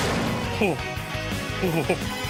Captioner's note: gasps